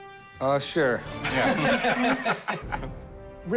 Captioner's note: laughter